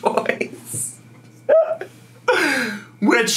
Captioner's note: snickers